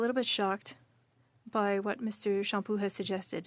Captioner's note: speaking French